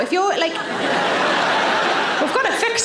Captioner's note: audience laughing